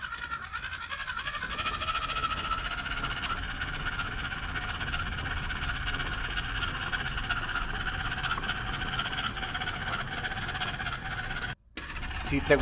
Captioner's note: laughs